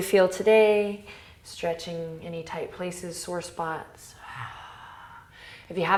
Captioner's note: exhales